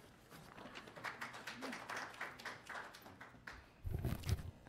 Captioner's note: applause